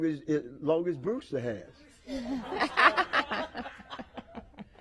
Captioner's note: laughter